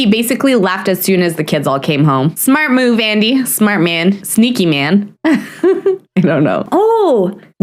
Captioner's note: nervous laugh